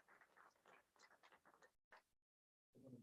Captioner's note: applause